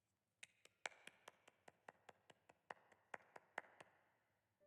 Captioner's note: clapping